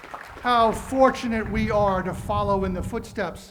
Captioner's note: cheering and applause